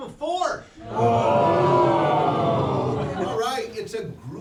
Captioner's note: crowd